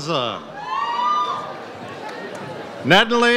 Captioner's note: audience cheers